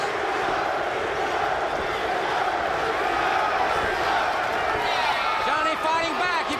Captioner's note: crowd chatter